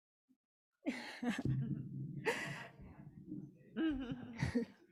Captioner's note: person laughing